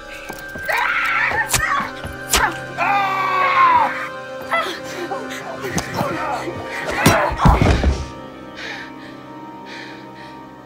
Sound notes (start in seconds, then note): 0.6 screams; 1.4 stab; 2.2 screams